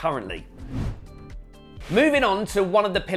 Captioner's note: logo whooshing